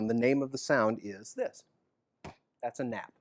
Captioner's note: chest thump